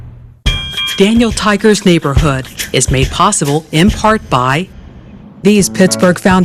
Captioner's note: trolly Dings